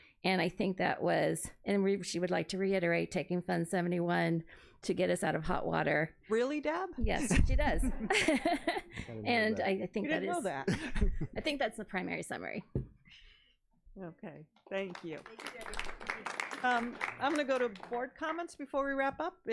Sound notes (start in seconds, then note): 7.9 laughs; 14.7 audience applauding